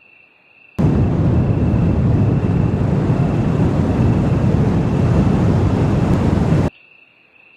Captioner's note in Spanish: Sonido de Mochila Propulsora